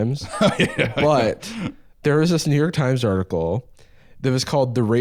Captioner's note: laughing